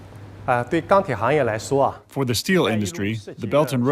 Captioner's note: speaking foreign language